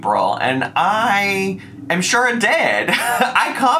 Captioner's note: laughs